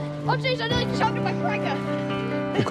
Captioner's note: kids chatter